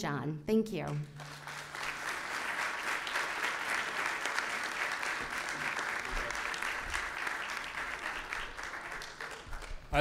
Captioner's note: applause